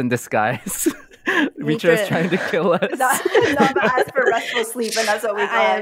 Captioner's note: everyone chuckles